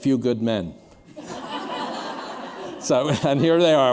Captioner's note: laughter